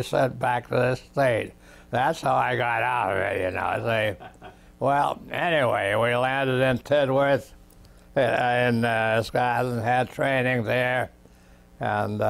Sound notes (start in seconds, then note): 3.9 laughs